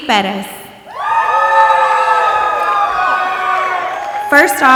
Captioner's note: audience applauding and cheering